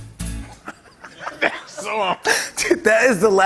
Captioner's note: laughter